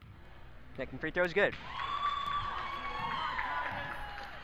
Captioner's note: crowd cheers